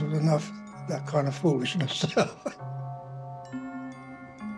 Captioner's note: laughs